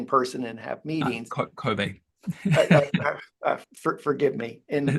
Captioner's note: laughing